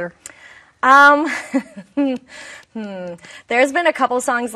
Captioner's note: chuckling